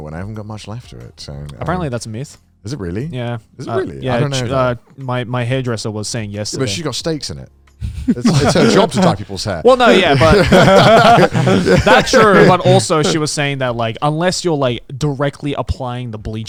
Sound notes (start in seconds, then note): 7.8 laughing